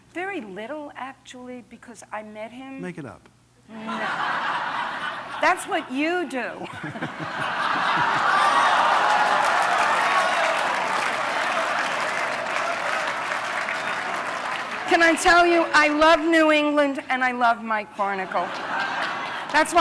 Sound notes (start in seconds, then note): 3.7 laughter; 6.7 applause and laughter